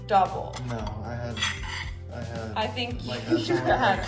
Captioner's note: laughing